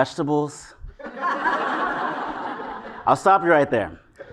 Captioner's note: laugh